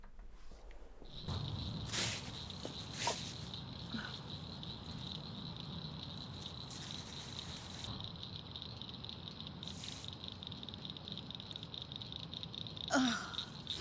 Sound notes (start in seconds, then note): 1.6 forest sounds; 4.0 bag rustles